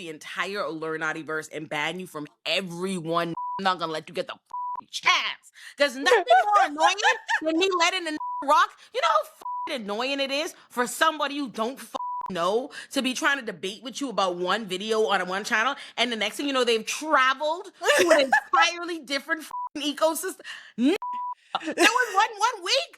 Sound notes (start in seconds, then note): 2.0 beep; 6.0 laughing; 7.0 beep; 19.5 beep; 21.0 beep